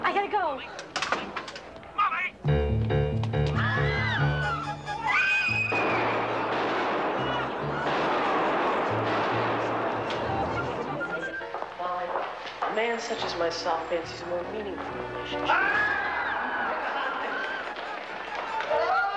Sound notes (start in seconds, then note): 2.8 tense music; 3.5 people screaming; 5.7 gun roaring; 15.3 people screaming